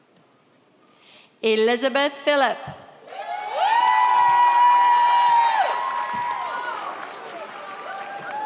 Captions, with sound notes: Elizabeth Philip (audience cheers)